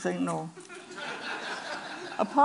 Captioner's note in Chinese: Laughter; 笑聲